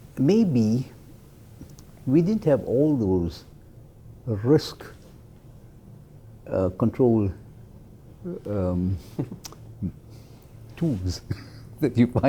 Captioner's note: laugh